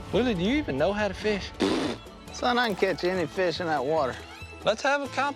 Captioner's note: blows raspberry